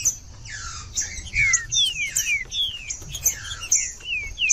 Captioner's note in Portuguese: trinca ferro cantando